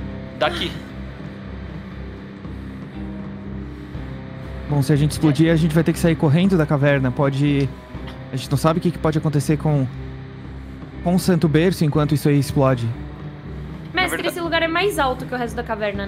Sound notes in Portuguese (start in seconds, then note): none